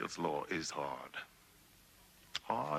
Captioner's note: none